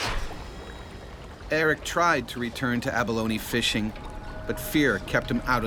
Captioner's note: voiceover